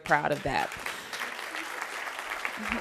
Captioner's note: applause